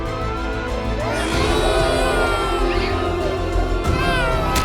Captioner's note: kids cry